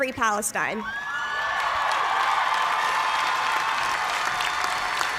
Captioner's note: cheers and applause